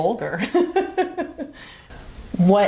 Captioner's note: laughs